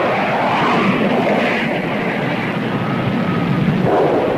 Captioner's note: plane whooshing; explosion booms